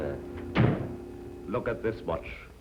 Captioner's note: door slams